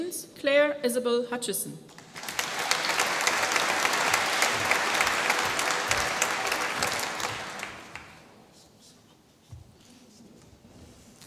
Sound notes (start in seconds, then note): 1.9 applause